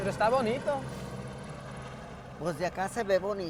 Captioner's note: plane passing